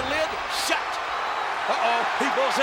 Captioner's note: audience cheers